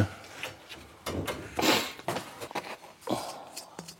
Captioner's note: rumble, sniffle